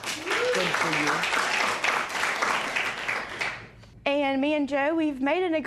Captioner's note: cheers and applause